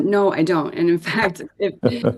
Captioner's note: laughter